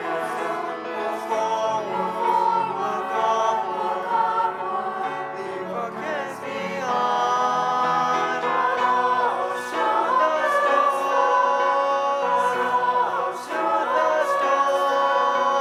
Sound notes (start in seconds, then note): none